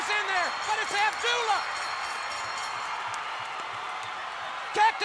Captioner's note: bell rings